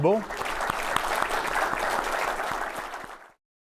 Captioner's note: applause